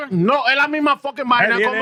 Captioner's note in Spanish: Hablando en idioma extranjero